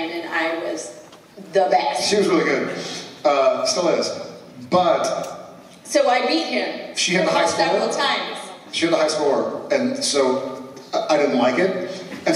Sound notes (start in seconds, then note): none